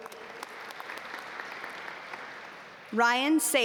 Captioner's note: audience applaud